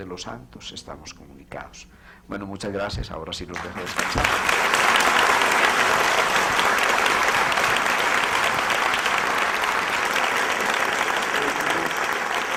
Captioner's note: long aplause